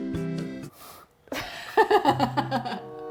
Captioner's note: scoffs; laughs